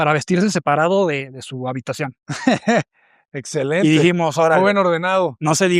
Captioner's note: risas